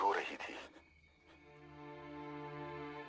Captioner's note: radio